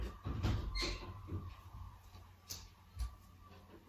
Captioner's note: squeaking